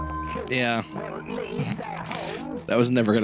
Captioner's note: small laugh-snort